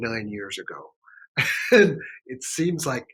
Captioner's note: laughs